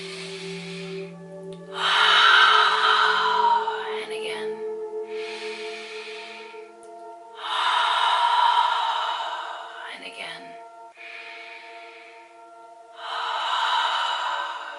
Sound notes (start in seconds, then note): 0.8 breathes deep; 3.3 breathes deeply